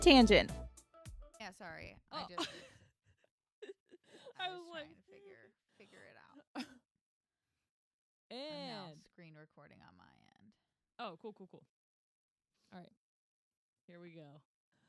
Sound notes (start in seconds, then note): 2.4 laughs